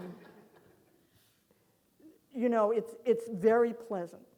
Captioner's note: audience laughing